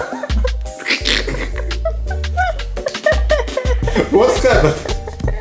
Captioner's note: laughing